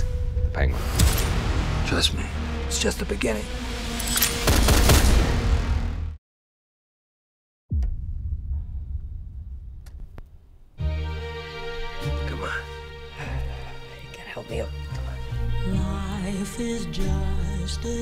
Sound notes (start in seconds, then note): 4.1 gunshots; 10.8 gentle music plays; 14.5 whispers